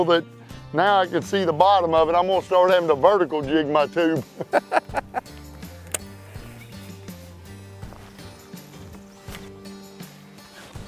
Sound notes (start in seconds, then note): 4.2 laughs